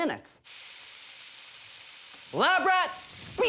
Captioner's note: sizzling